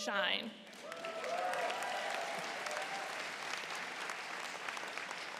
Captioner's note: cheering